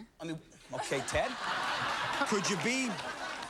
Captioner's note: laughter